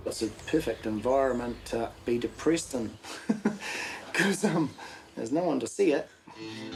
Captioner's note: chuckles